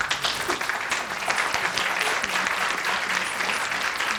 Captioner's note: applause